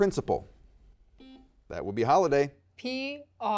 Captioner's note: buzzer dings